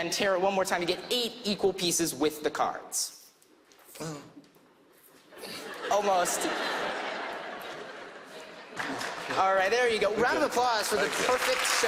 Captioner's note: laughter